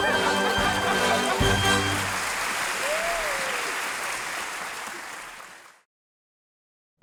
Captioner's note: audience cheering; audience applauding